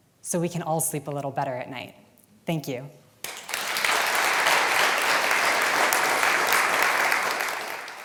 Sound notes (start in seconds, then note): 3.2 applause